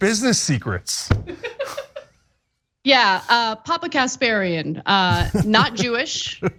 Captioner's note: laugh